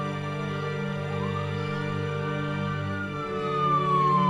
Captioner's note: sirens wailing